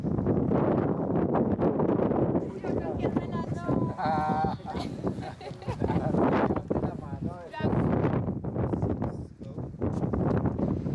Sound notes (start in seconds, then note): 2.3 voices and laughter, gusts of wind